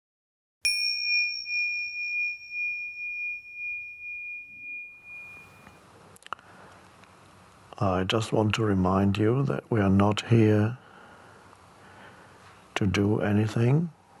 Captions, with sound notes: (gentle bell ringing) - I just want to remind you that we are not here to do anything.